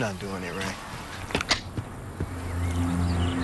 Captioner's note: metallic click